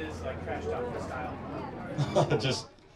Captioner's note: crowd chattering; Noah laughs